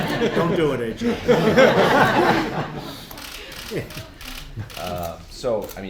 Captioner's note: laughter